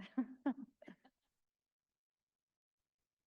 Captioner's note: laughing